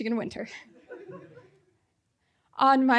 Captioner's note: audience laughing